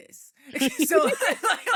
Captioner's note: laughing